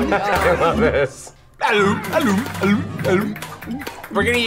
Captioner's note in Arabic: يهتف